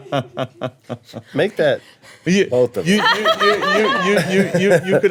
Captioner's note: laughing; laughing